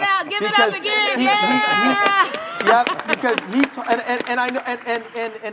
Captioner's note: shouting and cheering